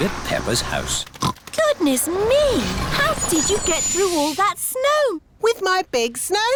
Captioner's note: oinks